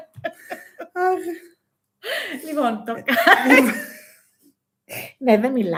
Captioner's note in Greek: γέλια